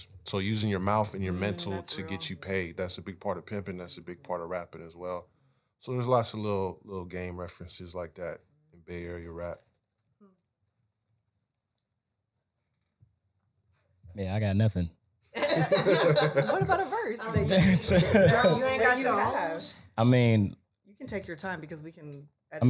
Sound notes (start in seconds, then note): 15.4 panel laughing